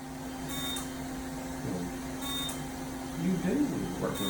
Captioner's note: machines buzzing